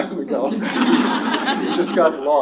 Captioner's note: laughter